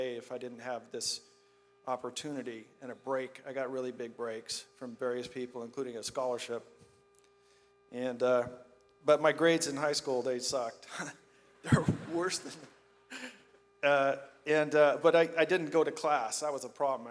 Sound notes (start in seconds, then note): 11.7 laughs; 11.7 audience laughs